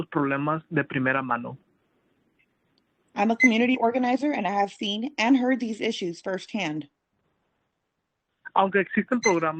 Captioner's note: speaking Spanish